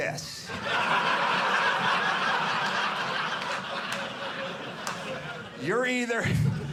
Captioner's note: audience laughing